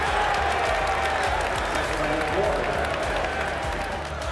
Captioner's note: crowd cheering